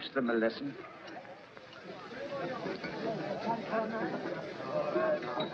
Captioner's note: miners chattering